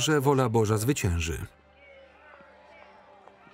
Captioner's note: protesters chanting